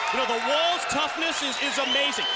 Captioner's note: crowd cheering